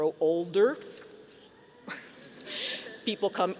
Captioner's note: audience chuckling